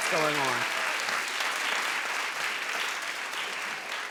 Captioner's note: applauding